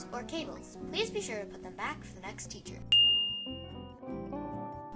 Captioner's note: ding